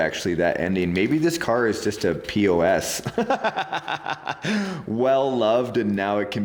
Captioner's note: chuckling